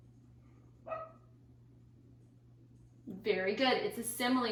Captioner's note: dog barking